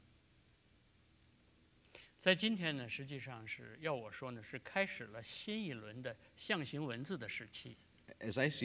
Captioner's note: speaking in Chinese